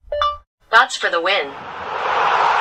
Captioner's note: technology Beep